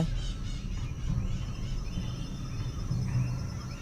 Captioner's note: birds chirpping